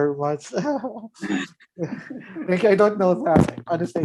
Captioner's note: laughs